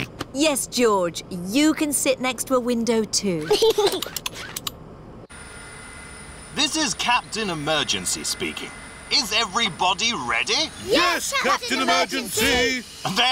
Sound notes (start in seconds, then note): 0.1 snorts; 3.4 giggles